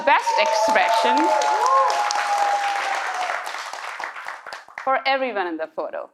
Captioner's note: audience cheering